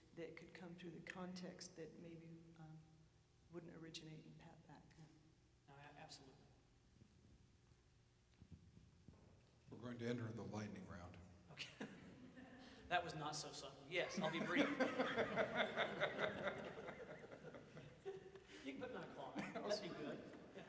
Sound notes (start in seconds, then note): 14.1 laughter; 14.2 audience chuckles